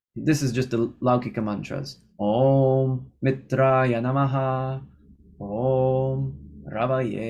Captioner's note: chanting